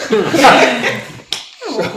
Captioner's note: laughing